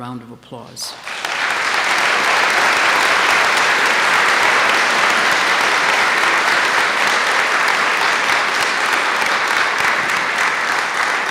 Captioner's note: applause